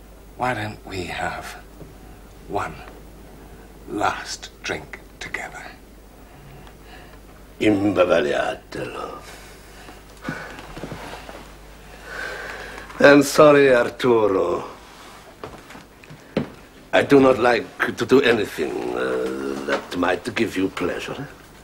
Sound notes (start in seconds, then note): 7.4 speaks Italian